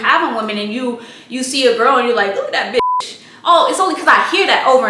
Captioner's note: beep